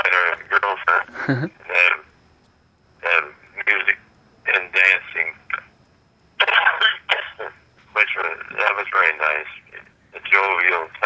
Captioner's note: coughing